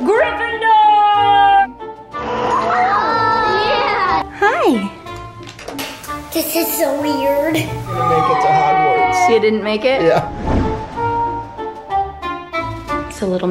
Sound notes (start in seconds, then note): 1.9 sewing machine whirring; 11.3 adventurous music